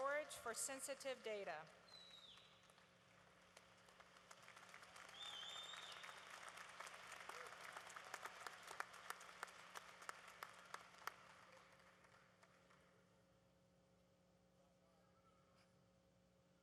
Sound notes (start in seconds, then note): 3.8 applause